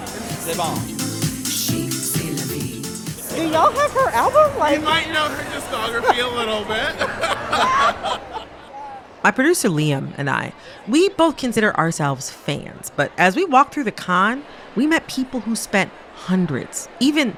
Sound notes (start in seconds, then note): 5.7 laughter